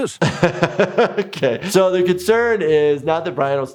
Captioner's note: laughs